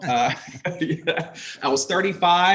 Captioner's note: everyone laughs